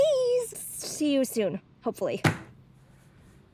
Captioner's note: slams phone down